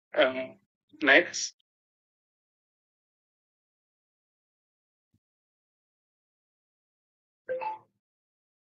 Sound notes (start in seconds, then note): 7.5 phone chiming